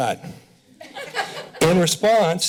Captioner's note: laughter